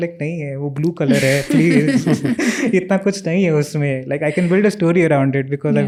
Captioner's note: speaks in Hindi